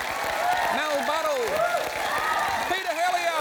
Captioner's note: cheering, applause